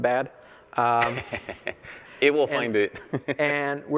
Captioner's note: laughter